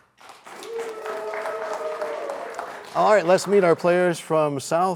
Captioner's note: cheers and applause